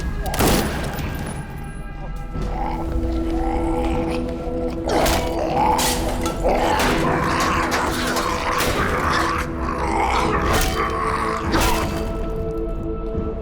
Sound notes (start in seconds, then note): 5.3 snarling